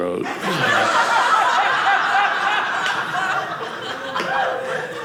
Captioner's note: audience laughing